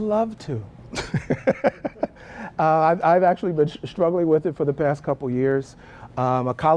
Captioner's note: laugh